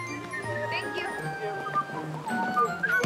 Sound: whistling

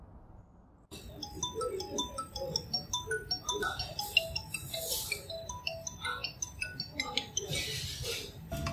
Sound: phone rings

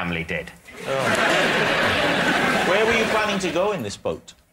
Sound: laughter

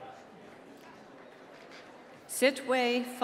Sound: applause

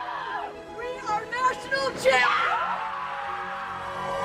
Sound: group cheering; group cheering

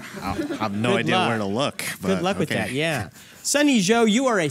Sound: laughter

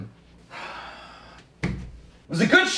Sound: sighs

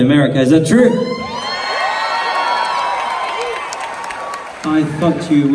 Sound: crowd cheers

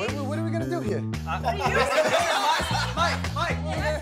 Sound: laughing

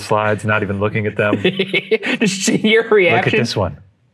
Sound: chuckling

